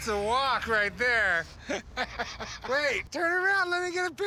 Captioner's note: laughing